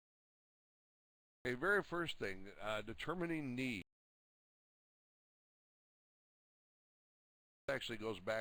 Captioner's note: audio drops; audio drops